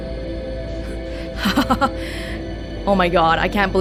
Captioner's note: laughs